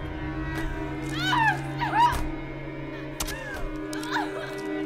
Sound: cries; groans

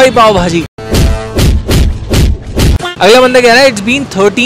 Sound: punching

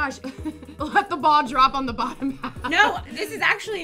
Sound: laughs

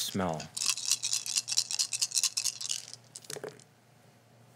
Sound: rattling

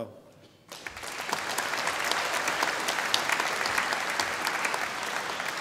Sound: audience applauding

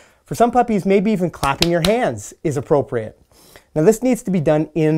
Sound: clapping

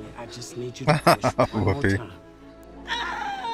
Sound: laughing

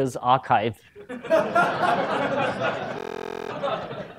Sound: laughter

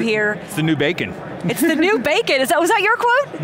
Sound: giggles

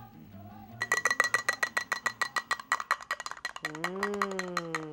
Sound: clinking

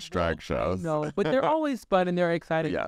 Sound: Sasha laughs

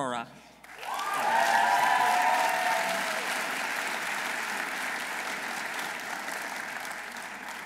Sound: audience applauding; audience cheering

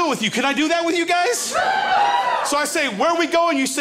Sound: crowd cheers

